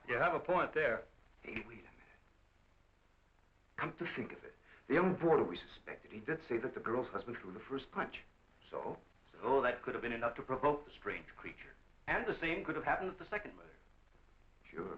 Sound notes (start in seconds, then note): none